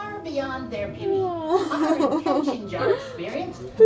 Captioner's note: riendo